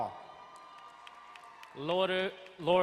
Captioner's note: crowd cheering and applauding